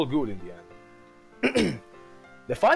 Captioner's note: hrm